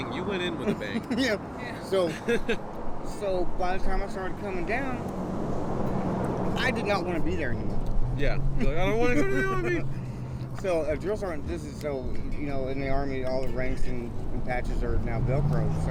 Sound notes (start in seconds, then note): 2.0 laughing